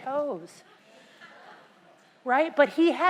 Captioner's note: laugh